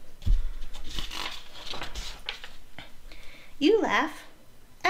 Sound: page flips

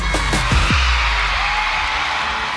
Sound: crowd cheering

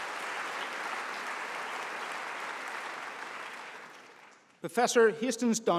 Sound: applause

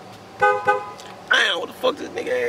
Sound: car Horn

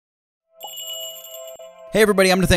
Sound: magical jingle

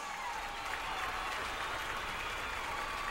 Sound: clapping and cheering in distance

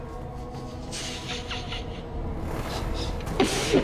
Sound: laughs

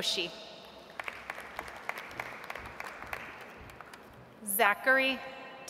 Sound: audience applauds

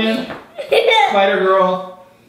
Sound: girl laughs

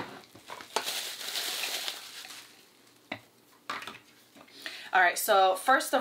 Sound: polythene paper crackles

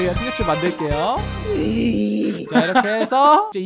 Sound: making weird noises

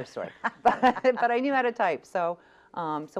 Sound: laughs

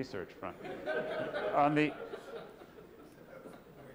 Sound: laughter

